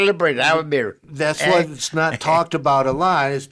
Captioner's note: chuckling